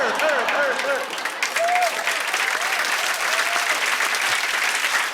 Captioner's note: cheers and applause